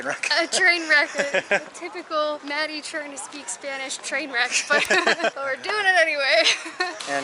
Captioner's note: laughter